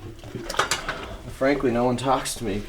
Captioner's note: dishes clatter